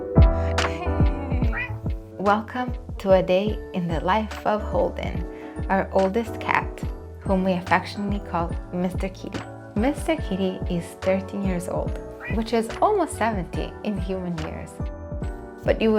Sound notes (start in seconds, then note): 1.0 Holden meows